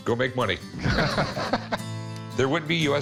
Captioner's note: both laugh